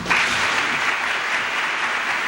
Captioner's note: applause